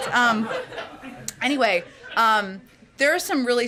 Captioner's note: laughter